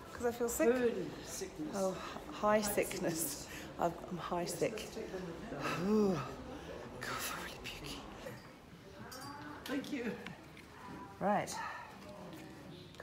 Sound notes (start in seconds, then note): 5.9 groans